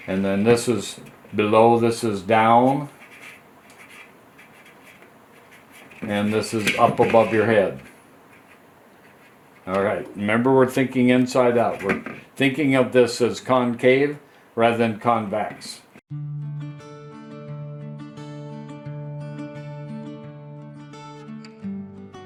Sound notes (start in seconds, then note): 3.6 marker scratching; 16.1 soft music